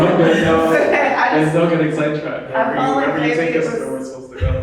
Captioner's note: chuckling